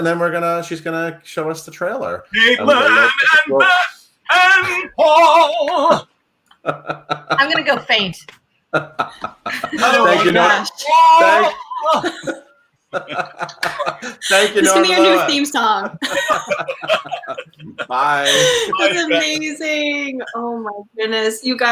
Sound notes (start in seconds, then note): 6.6 laughs; 12.9 laughing